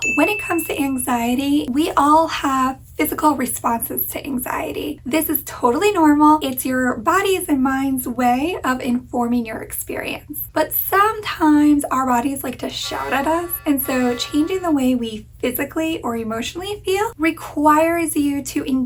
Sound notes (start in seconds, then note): 12.6 klaxon blaring